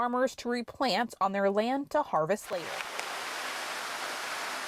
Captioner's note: natural sound: greenhouse sprinkler